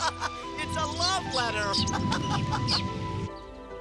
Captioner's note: laughs